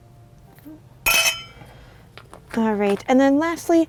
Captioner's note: spoon clinking